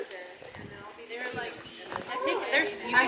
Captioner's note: background chatter